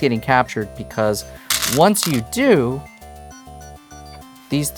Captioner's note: stones rattling